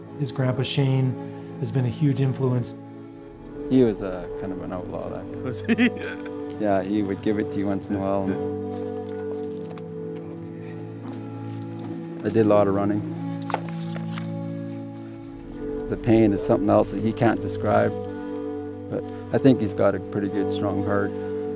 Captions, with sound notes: His grandpa Shane has been a huge influence. - He was kind of an outlaw, that guy. - Was he? [laughs] - Yeah, he would give it to you once in a while. I did a lot of running. The pain is something else that he can't describe, but I think he's got a pretty good strong heart.